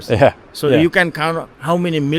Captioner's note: chuckles